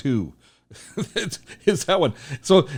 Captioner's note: laughs